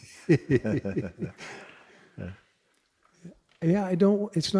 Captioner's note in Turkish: Mooji ve soru soran kıkırdar